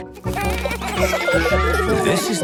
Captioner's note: children giggling